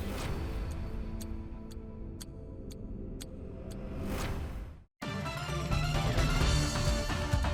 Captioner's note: clock ticking; intense music